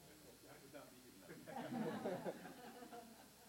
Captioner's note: chuckle